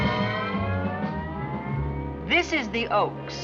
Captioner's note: voiceover